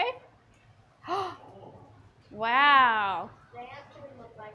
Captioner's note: gasps